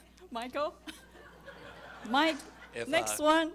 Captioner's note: audience laughing